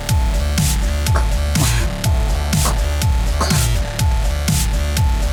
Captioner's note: choking